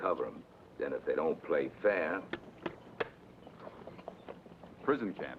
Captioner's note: hand taps